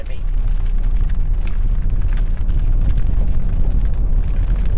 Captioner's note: rain splattering